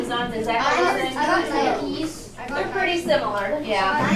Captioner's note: children chattering